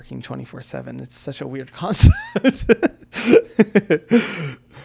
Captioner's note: laughs